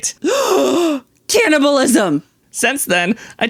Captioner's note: gasp